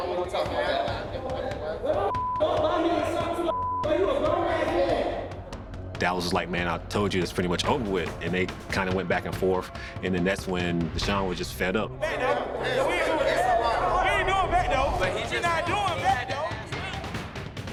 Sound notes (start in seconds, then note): 11.9 indistinct shouting; 11.9 dramatic music playing